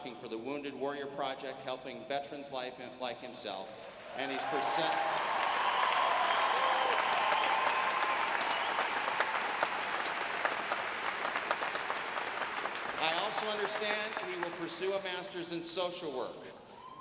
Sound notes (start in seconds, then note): 5.0 audience applauding